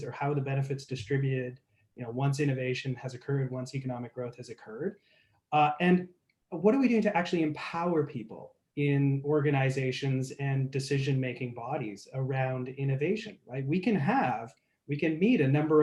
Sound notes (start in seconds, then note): none